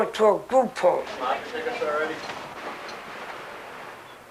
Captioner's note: background talking